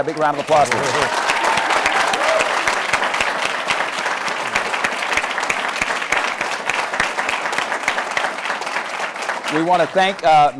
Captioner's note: applause